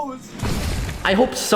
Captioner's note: outro thud